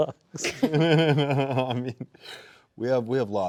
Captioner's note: both giggling